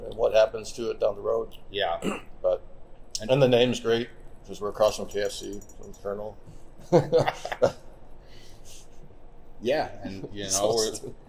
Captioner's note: laughs